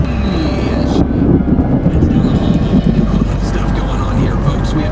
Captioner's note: radio host talking